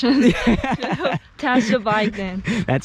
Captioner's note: both laughing